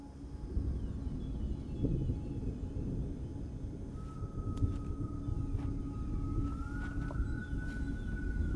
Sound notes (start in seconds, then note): 0.8 thunder rumbling; 2.2 ethereal music playing